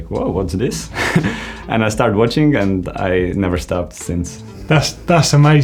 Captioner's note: laughs